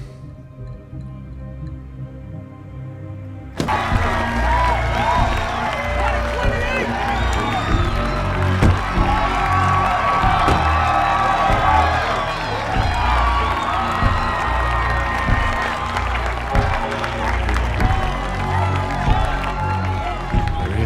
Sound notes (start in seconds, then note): 0.1 tense music; 3.8 crowd cheers and applauds; 3.8 tense music; 16.2 crowd cheers and applauds; 16.2 tense music continues